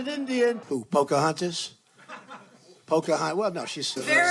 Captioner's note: laughing